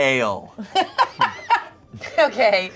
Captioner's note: laughs